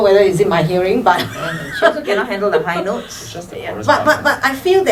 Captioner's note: laughs